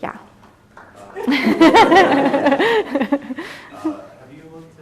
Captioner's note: laughter